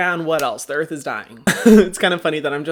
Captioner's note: laughing